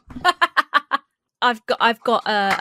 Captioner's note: laughs